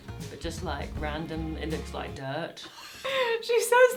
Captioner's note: laughing